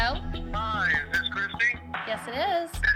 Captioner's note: on phone